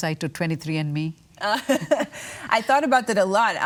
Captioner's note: laughs